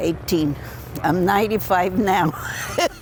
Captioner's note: laughs